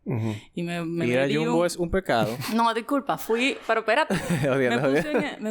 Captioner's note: laughs